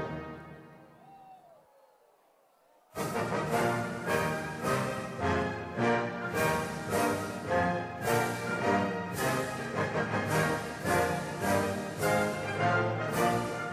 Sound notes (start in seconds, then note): 1.0 people chattering